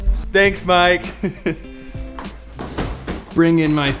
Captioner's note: laughs